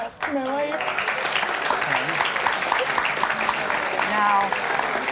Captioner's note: audience applauds